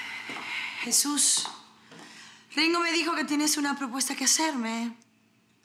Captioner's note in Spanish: Fernanda exhala